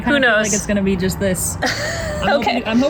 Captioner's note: laughs